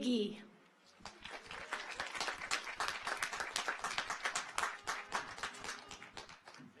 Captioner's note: audience applauds; car horns honking